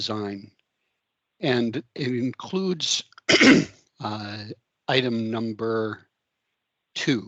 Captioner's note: throat clearing